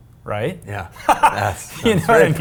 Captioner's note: Rich laughs